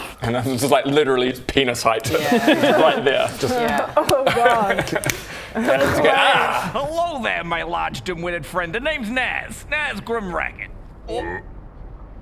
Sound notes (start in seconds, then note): 3.2 fleshy smacks; 4.7 more fleshy smacks